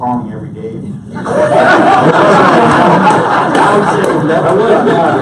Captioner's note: audience laughs